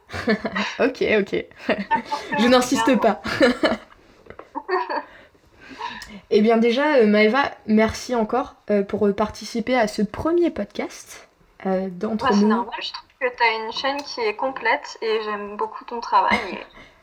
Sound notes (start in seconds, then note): 4.3 laughs